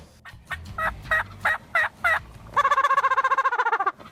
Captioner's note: turkey gobbling